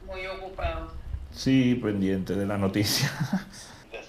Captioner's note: on phone; chuckles; on phone